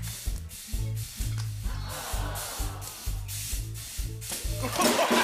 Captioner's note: audience ohs; rimshot; cheering and applause